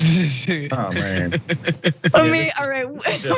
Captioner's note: laugh